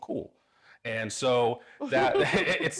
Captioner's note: laughing